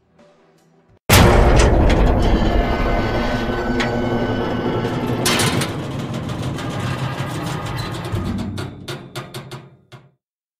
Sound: rumbling Sounds

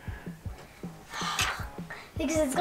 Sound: sighs

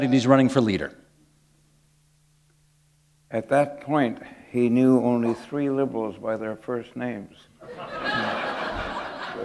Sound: laughter

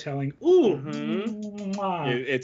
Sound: smooches

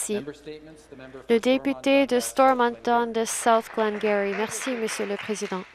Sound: some Applause

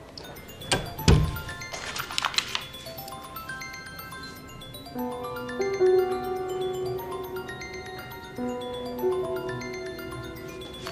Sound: mobile ringing

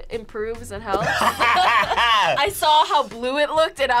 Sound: both laugh

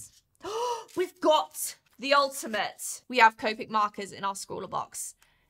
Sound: gasp

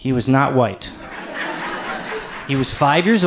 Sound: audience laughs

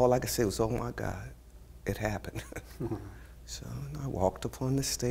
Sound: laughs

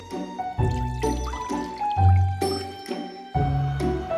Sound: liquid pouring

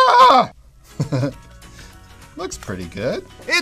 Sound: laugh

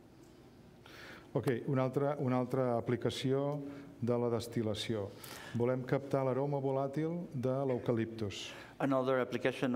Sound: speaking catalan

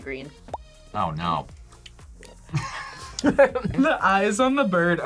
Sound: laughs

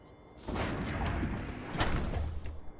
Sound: gunshots

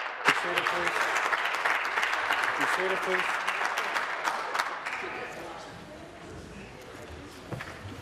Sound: applause

